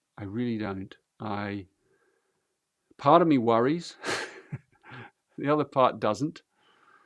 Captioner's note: laughs